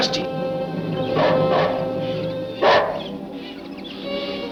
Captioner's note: barking